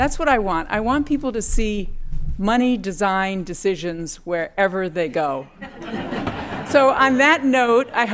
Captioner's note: laughter